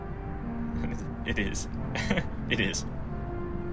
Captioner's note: chuckles